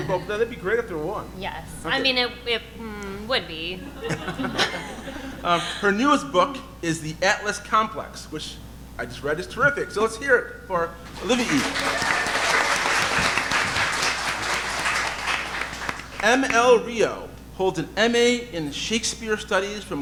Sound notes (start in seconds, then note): 3.8 audience laughing; 11.0 audience applauding